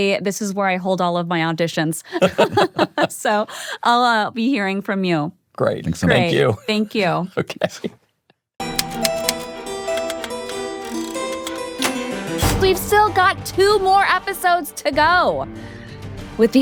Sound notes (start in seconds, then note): 2.1 everyone laughing; 8.7 typewriter clacking; 8.7 upbeat music